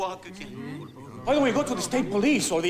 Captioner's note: overlapping chattering